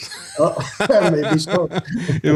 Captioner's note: laughing